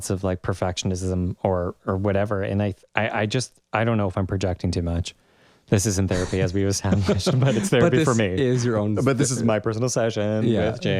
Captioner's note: laugh